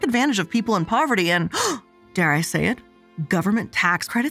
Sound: gasping

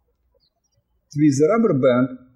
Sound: birds chirping

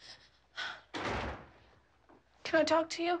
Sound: sobbing

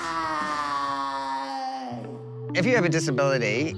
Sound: rock scream fades

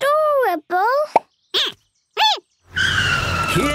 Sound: squeaking

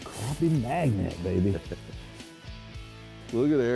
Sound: laughing

